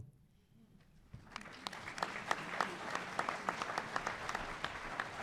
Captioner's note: audience applause